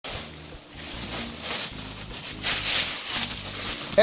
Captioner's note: leaves rustling